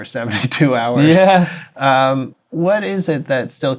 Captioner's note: laughter